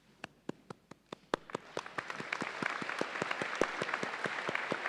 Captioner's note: audience applauds